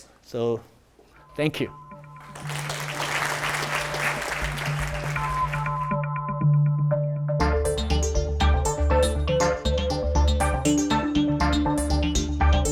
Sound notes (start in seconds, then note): 2.0 gentle music; 2.2 audience applauding; 6.2 upbeat music